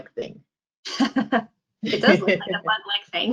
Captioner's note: laughs